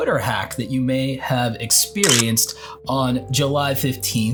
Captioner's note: camera shutter clicking